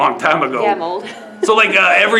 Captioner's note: laughs